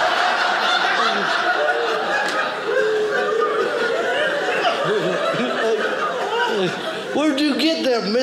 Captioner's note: audience laughing